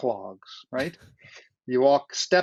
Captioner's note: chuckles